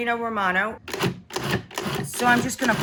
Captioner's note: mixer pulsing